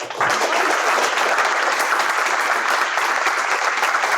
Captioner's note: audience applauds